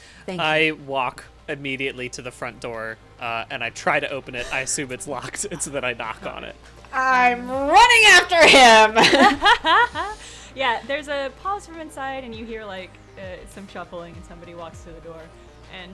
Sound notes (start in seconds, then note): 8.2 laughing